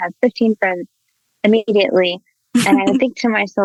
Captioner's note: chuckles